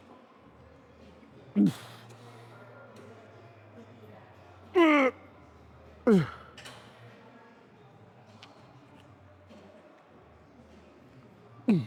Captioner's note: crowd chattering